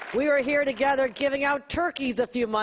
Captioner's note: applause